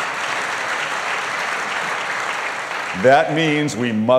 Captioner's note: applause